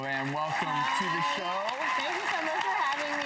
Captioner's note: audience applause